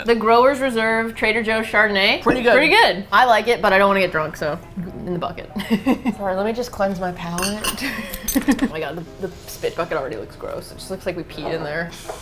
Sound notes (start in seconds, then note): 5.9 snobbishly; 7.8 laughs